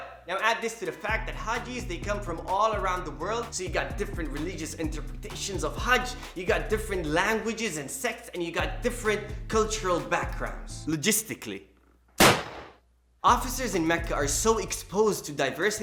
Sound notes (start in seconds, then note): 12.2 gun sound